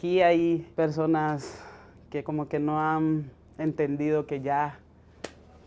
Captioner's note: speaking Spanish